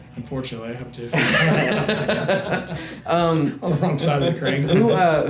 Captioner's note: everyone laughs